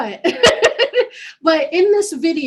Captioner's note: laughing